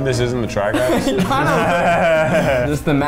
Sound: laughs

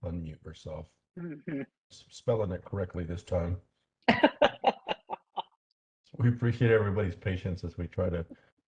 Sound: laugh

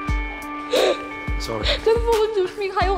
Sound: sobs

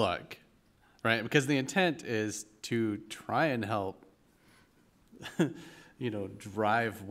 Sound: chuckle

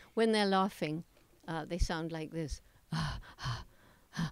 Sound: panting

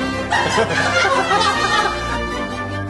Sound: laughter

